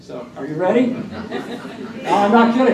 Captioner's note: laughter